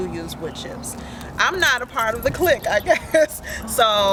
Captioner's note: laugh